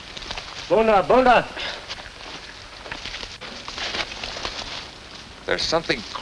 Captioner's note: speaks in foreign language